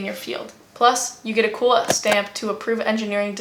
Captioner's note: stamp sound effect